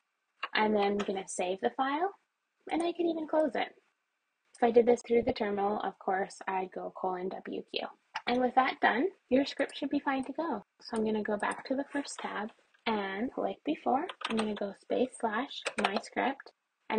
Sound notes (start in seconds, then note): 2.6 mouse clicks; 7.3 mouse sound; 10.3 mouse clicks